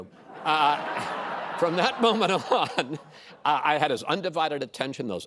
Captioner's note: laughter